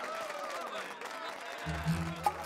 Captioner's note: cheers and applause